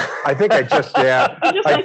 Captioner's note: laughs